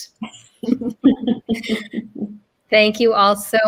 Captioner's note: all laughing